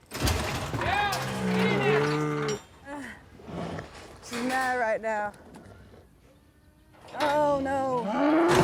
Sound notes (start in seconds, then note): 0.0 gate slamming; 0.8 cowboy yelling; 1.2 cow mooing; 1.2 grunting